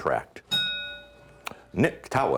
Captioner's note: ding